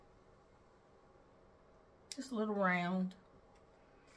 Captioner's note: plastic crinkling